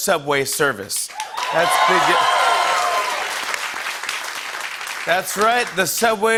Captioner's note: cheering and applause